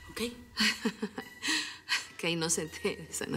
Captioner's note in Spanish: risas